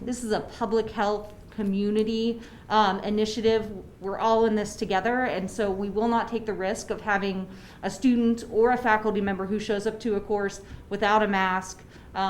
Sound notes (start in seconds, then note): none